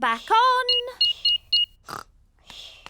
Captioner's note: beeping